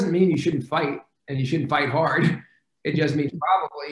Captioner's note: laughs